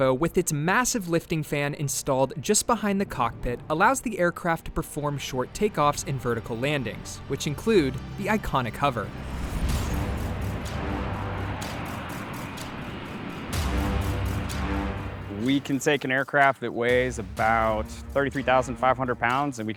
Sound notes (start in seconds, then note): 9.4 aircraft humming; 9.4 tensed music